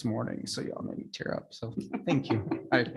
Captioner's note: people laughing